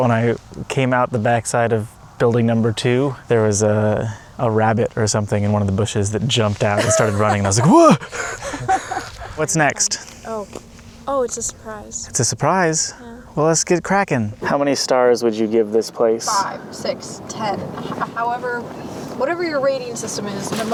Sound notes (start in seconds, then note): 6.8 laughs; 6.8 laughs breathily